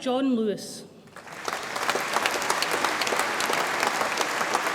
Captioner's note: audience applauds